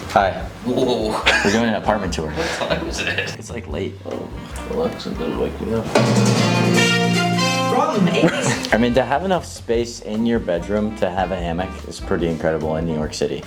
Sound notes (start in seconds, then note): 0.8 chuckling; 5.8 news program blasting; 8.0 chuckling